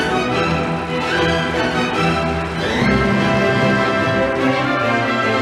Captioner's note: audience applauding